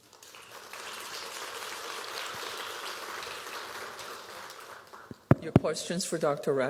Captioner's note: applause